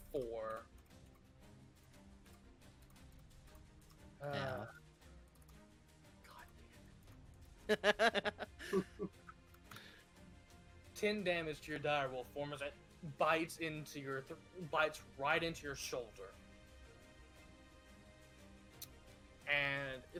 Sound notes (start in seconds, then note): 6.1 laughs